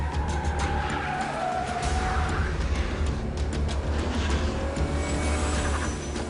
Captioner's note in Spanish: Chirrido de gomas